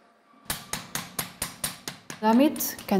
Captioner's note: hammering